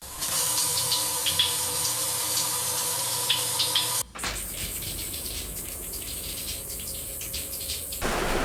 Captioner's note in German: Duschgeräusch